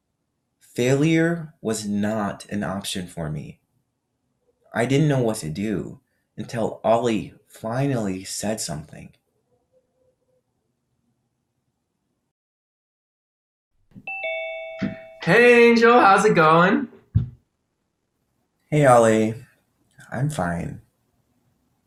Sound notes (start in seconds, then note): 14.0 bell dings